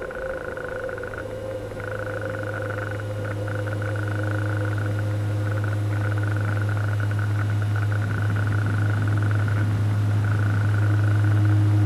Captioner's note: air vent sounds